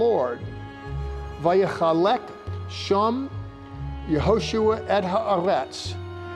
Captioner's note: speaking Hebrew